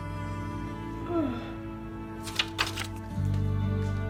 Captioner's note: yawning